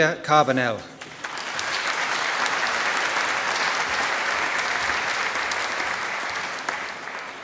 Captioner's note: applause